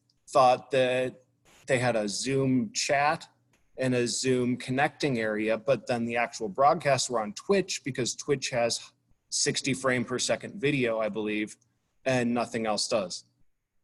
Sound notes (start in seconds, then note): none